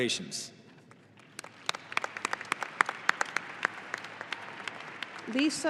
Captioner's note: audience applauding